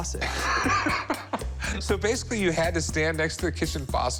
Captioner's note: laughs